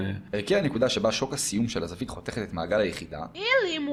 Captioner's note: man speaking Farsi; man speaking Hebrew